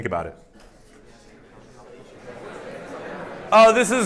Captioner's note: indistinct chatter